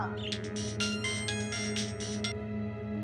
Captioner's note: Cell phone ringing